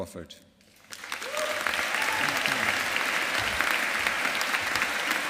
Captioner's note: audience applauding